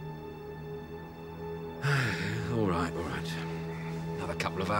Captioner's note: sighs heavily